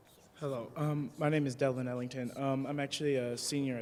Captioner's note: voiceover